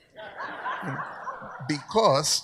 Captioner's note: audience laughs